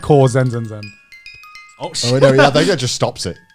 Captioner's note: bell chiming; chuckling